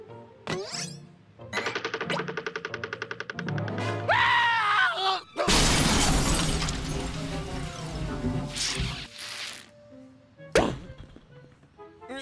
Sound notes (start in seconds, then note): 5.4 crash; 10.6 pop